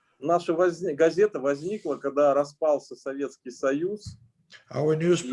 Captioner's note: speaking Russian language